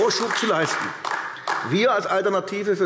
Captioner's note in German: Beifall AfD